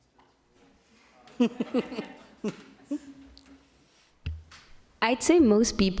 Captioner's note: participants and audience laughing